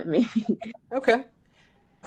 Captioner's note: laugh